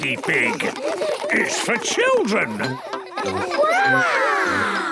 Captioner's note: children laughing